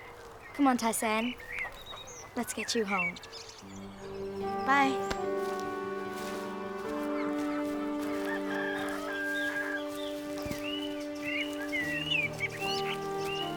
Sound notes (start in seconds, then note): 7.8 rooster crows; 10.7 soothing music